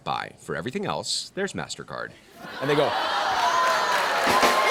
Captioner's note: cheers and applause